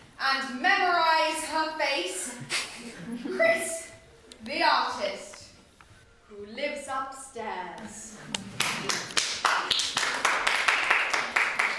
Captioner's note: applause